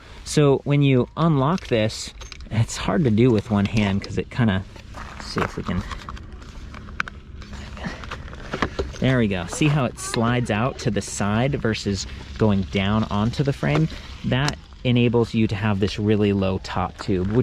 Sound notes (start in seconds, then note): 6.6 clicks